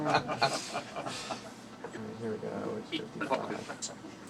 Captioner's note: laughing